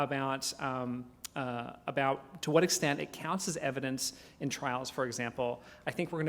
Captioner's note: none